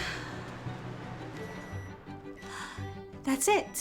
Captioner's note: microwave beeping